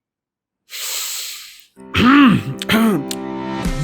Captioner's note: inhales; clears throat